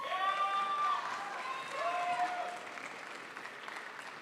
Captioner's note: crowd applauds